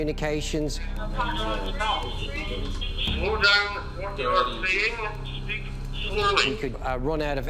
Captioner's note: radio sounds